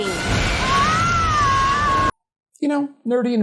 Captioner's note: Glorificus screams